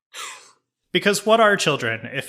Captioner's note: laughs